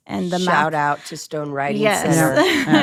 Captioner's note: chuckles